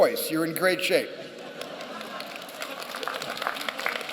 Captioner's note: applause